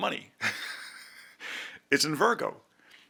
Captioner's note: laughs